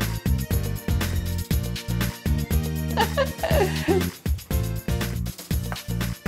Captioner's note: laughing